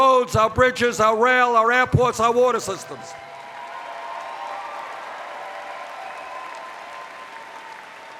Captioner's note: cheers